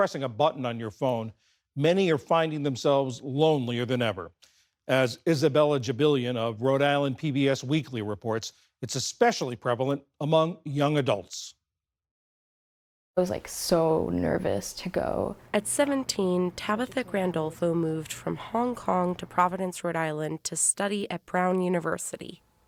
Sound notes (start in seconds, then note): 16.4 voice-over